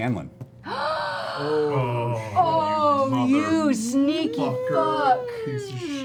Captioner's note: gasps